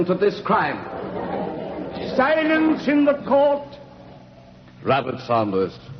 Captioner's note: Noise of crowd